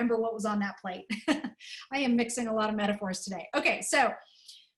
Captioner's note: laughter